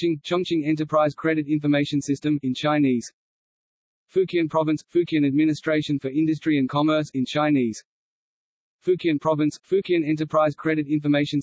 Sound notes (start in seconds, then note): 8.7 in German; 10.4 in German